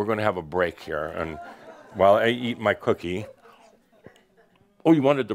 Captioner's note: a few chuckles